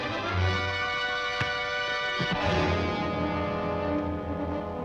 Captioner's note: punch striking